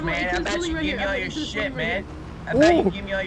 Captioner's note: distored mic